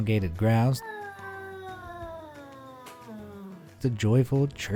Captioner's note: cat growling